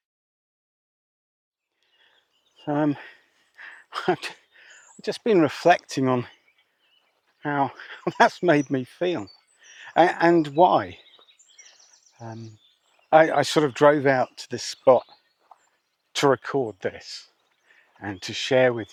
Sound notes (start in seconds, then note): 3.5 sighs